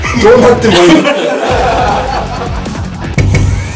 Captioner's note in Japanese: 笑い